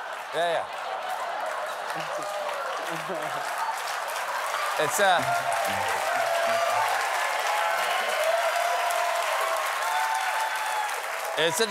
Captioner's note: applause